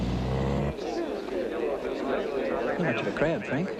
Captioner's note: crowd chattering